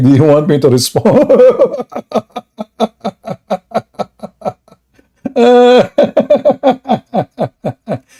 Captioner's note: Ketawa